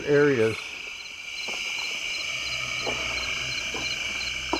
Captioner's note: insects chirping